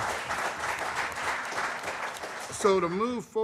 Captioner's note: applause